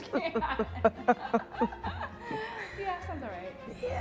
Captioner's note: laughing